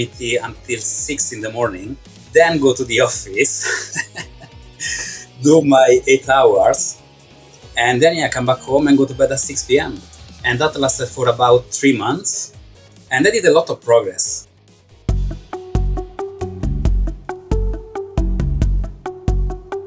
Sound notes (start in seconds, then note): 3.4 laughs; 15.3 upbeat music